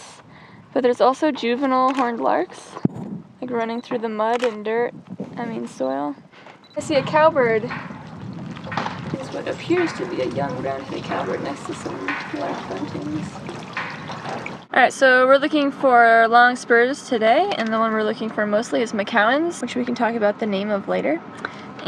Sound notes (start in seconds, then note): 13.2 windmill clanks